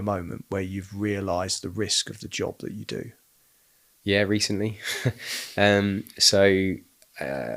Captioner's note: laughing